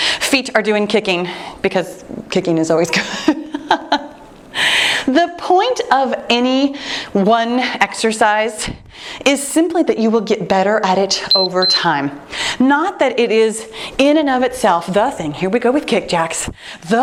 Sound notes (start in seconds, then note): 11.2 timer beeping